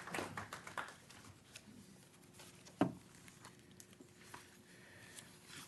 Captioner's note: clapping